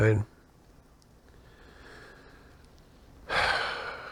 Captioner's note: sighs